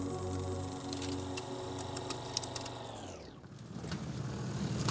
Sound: film whirring; engine rumbling

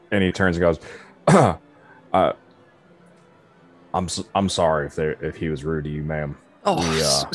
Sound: clears throat

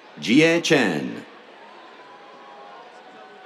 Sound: cheers

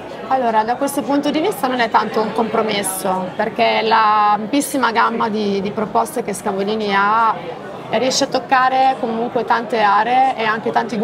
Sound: speaks Italian

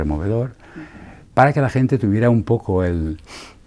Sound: snifs

